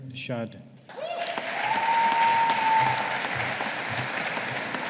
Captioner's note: audience applauding